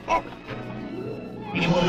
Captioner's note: Johnny groaning